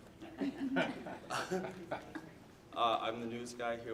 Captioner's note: audience laughing